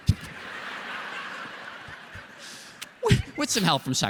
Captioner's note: laughter